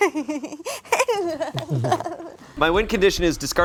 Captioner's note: laughs mockingly